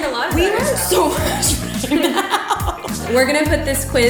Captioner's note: laughs